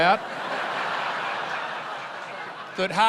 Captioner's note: laughter